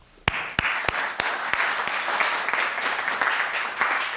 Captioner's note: applause